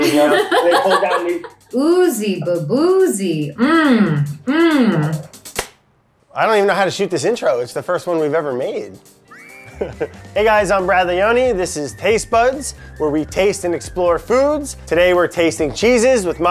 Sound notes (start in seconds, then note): 0.0 Elizabeth laughs; 3.5 hums; 5.4 clapperboard clicks